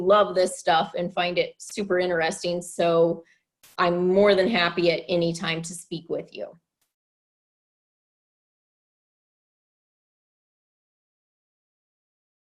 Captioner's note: long pause